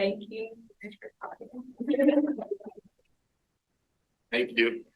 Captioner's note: laughing